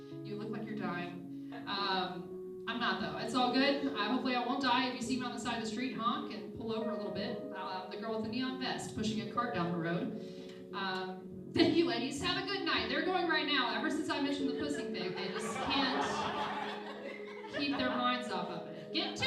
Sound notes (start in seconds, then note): 15.1 laughing